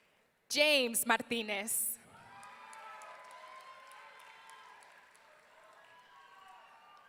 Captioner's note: audience cheering